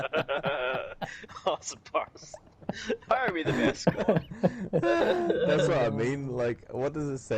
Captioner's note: laughter